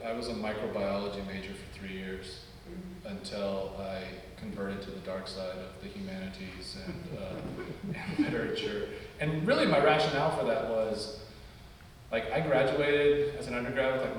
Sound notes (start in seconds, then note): 6.7 audience laugh